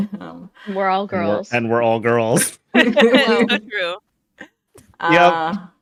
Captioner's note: group laughter